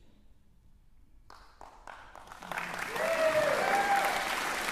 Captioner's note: cheering, applause